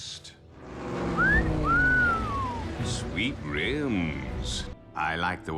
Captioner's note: wolf whistle